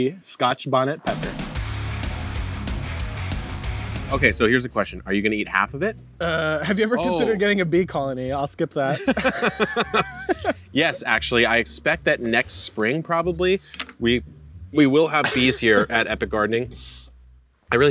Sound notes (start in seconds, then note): 1.0 rock upbeat music; 8.9 both laughing